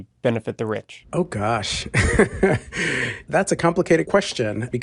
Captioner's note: laughs